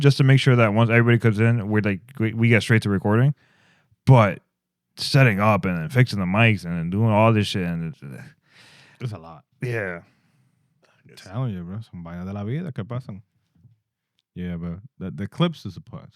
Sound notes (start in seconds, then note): 11.8 speaking Spanish